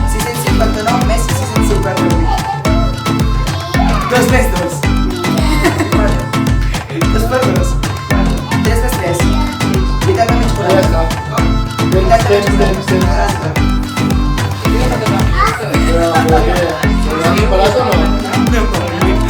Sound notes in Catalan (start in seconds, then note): 5.3 riure; 14.7 castellà